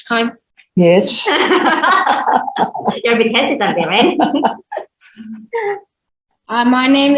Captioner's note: laughter